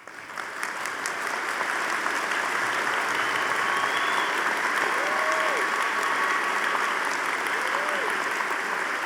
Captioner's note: audience applauding